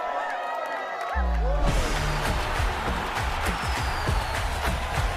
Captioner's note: cheering from a room; crowd cheering